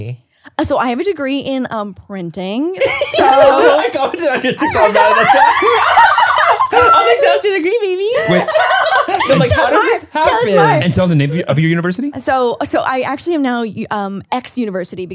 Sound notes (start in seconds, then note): 2.8 everyone laughs